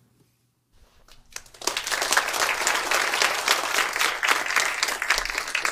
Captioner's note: applause